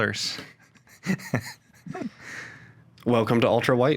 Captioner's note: host 1 laughing